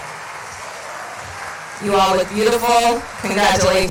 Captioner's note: cheering and Applause